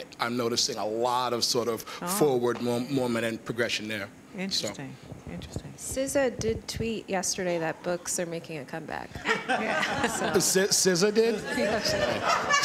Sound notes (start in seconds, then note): 11.3 laughter